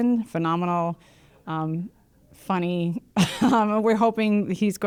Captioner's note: laughs